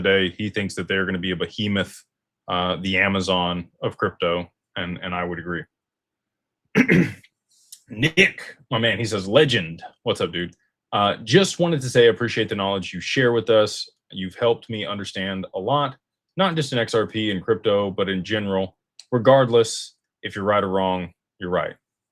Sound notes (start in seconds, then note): 6.7 cough; 6.7 clears throat